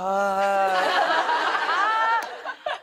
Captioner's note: laughter